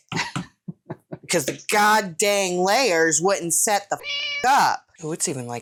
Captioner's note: meow